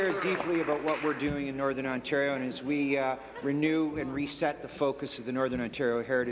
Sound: applause

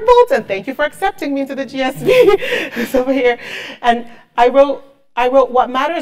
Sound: laugh

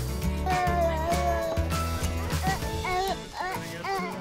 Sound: wood squeaking

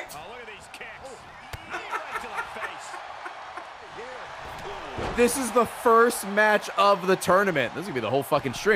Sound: laughs

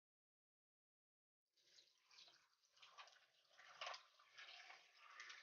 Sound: water pouring

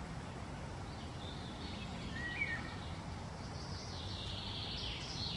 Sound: none

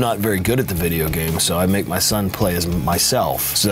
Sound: none

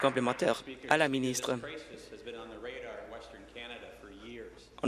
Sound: applause

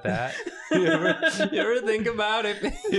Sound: laughter

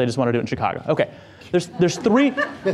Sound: audience laughter

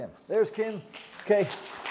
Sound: applause

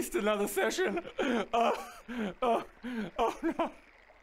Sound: cries

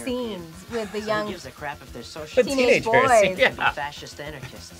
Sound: laughs

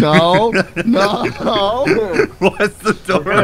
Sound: laughing

